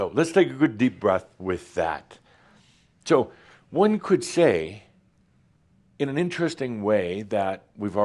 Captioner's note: none